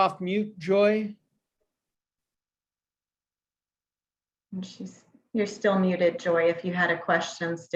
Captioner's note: silence